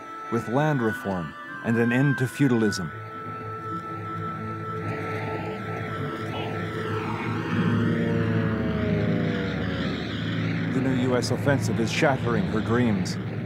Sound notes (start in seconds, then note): 3.7 crowd chanting; 7.5 engine roaring